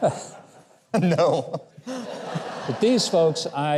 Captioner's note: chuckles